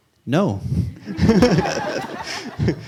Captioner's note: laughter